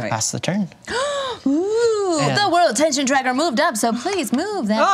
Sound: gasps

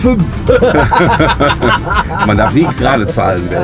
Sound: laughter

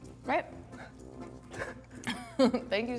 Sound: laughing

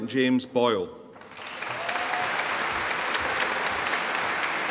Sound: audience applauding

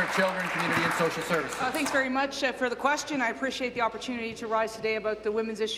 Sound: applause

